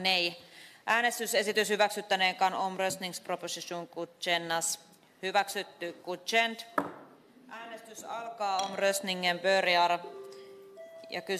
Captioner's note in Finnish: nuijan kopautus